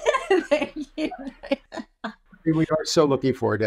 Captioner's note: laughs